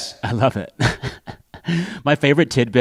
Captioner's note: laughter